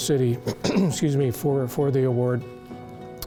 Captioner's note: clears throat